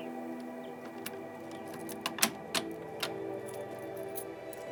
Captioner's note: door knob clanking